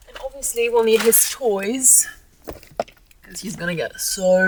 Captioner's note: bag thuds